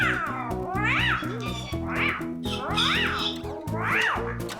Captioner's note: squeaking